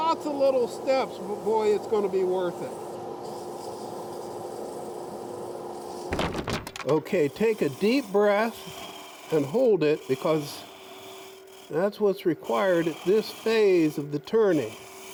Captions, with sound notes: Lots of little steps, boy, it's gonna be worth it. (sanding) (wood clattering) Okay, take a deep breath and hold it because that's what's required at this phase of the turning,